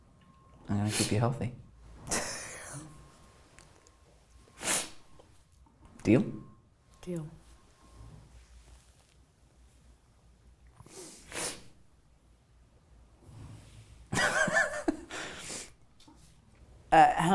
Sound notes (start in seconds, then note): 2.4 laughs; 14.2 laughing